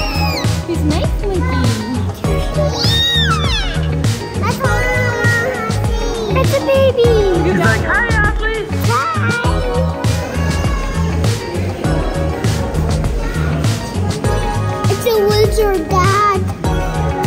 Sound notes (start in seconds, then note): 2.8 squeals; 11.0 gentle music